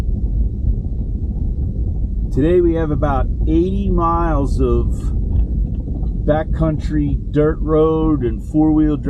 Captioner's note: heavy wind/car noise